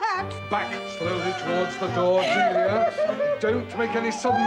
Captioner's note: Lady Glossop weeps